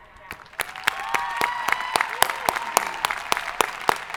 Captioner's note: audience applauding